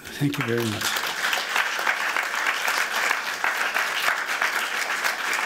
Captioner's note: applause